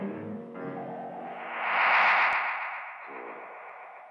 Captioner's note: magnetic humming